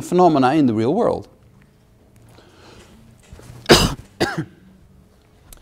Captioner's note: cough